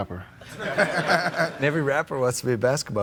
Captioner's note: laughs